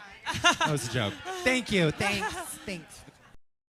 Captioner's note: fake laughs